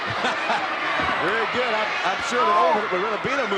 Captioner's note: chuckles